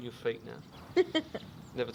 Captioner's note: laughs